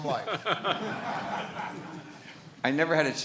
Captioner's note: laughs